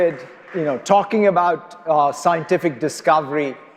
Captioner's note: applause